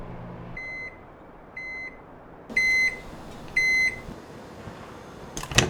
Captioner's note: microwave beeps